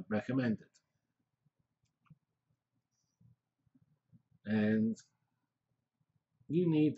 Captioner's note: pause